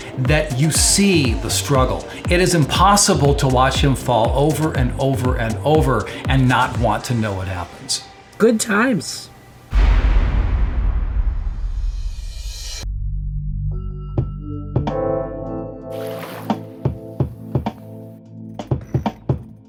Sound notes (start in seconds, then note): 9.7 explosion; 13.6 soulful music